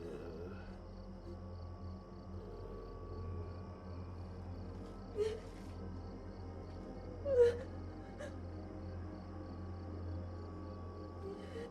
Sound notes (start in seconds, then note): 0.0 Patrick groaning; 5.2 Maria crying